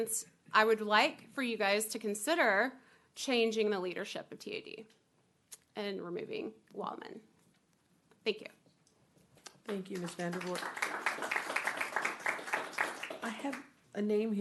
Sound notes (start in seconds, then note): 1.3 clapping